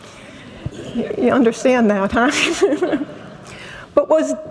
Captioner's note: laughs